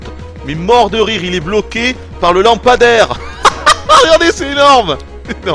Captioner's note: laughs